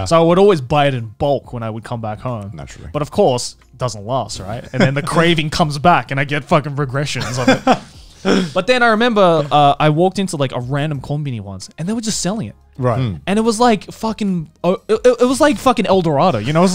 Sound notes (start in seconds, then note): 7.2 laughing